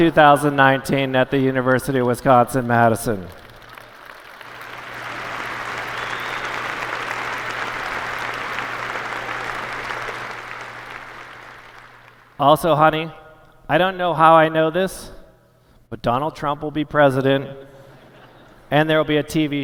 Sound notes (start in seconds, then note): 13.1 applause